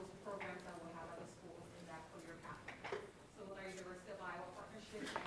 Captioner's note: speaking faintly off mic; speaking faintly